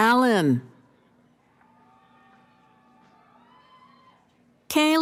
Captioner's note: cheering